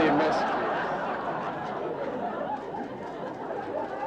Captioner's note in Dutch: publiek lacht